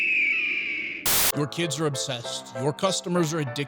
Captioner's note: screaming